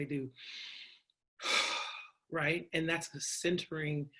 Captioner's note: breathes heavily